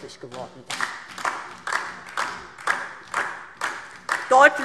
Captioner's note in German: Beifall DIE LINKE und vereinzelt SPD